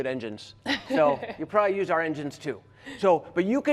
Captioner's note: laughter